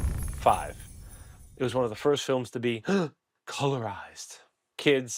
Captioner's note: gasp